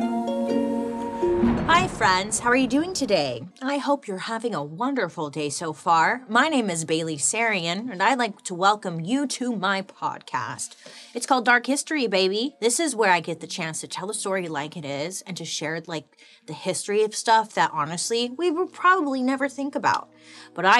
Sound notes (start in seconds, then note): 1.1 thunder crashing